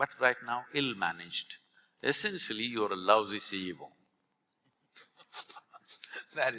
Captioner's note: both laugh